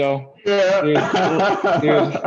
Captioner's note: laughter